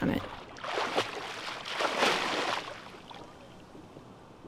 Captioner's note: water splashing